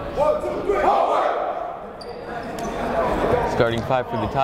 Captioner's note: chanting